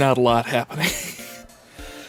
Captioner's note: wheeze